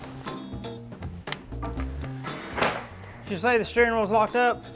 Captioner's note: metal snaps